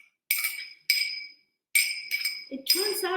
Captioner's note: spoon scraping